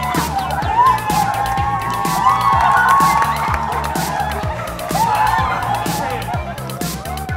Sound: cheering and applause

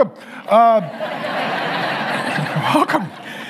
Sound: congregation laughing

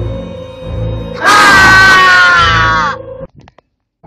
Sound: scream

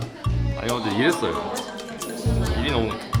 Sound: gasp

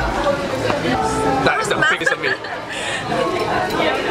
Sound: laughs

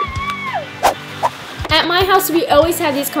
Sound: whooshing

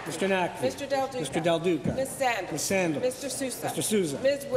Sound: applause

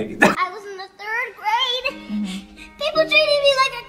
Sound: kid voice

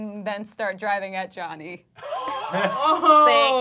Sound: laughing

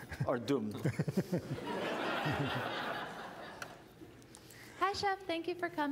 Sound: laughter

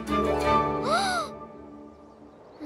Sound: sighs

